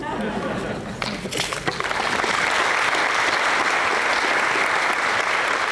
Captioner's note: applause